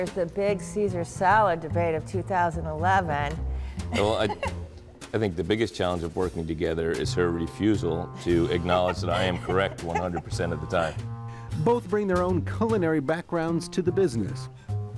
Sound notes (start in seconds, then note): 3.9 laughs